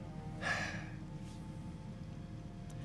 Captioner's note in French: soupire